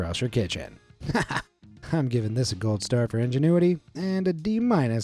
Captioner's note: laughs